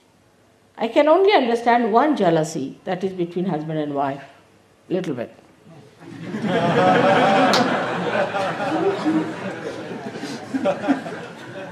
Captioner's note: laughter